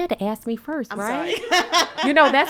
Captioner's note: laughs